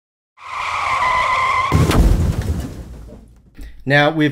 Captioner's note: car screeches